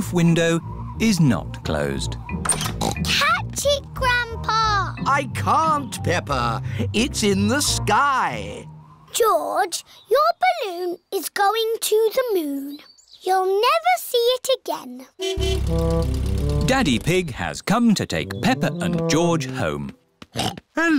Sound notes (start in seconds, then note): 2.8 snorts; 15.2 horn honking; 20.3 snorts